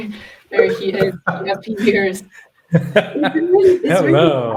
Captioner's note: laughing